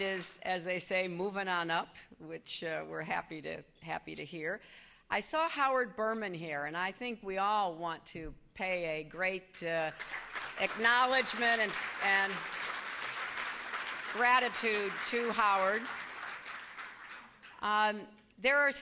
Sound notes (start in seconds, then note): 0.0 applause; 11.6 applause